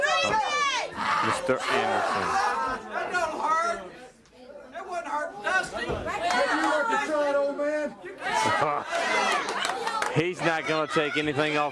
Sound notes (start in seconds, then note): 2.3 crowd chatter